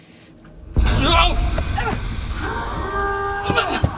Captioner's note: an explosion. taking on water; Her best Sean Connery Voice